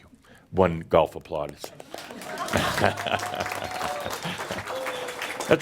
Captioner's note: Adamus chuckles and now audience applause